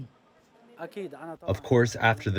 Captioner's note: through translator